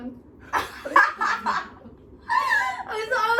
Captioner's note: all laughs